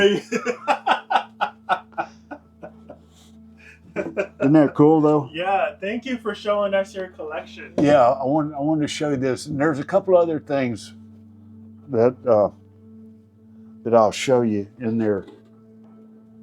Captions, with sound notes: (laughing) Isn't that cool though? Yeah, thank you for showing us your collection. Yeah, I wanted to show you this. There's a couple other things that I'll show you in there.